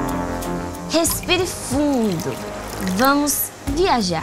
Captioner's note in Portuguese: som de água escorrendo